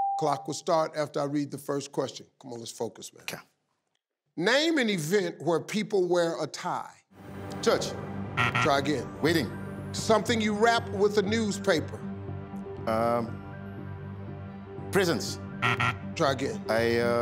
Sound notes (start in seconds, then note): 8.4 buzzer dings; 15.6 buzzer dings